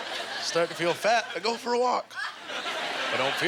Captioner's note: audience laughter